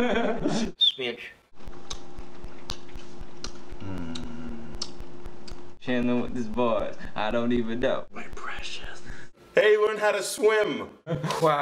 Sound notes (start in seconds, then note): 0.0 laughs; 0.8 whistle; 4.6 lips smacking